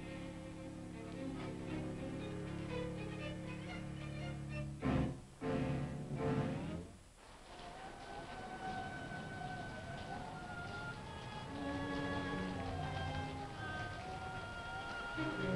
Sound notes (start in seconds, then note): 7.5 wind howling; 8.2 pensive music